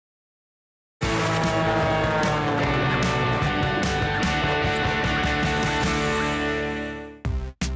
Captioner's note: rousing music; plane engine buzzing